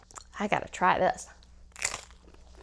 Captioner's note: crunching